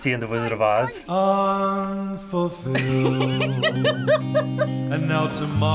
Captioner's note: laughs